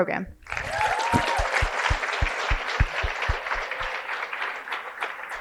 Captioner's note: cheering and applause